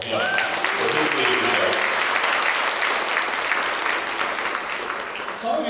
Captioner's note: applause